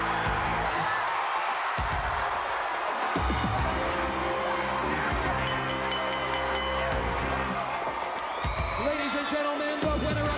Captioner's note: crowd cheering; bell ringing